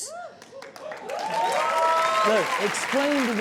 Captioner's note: audience cheering and clapping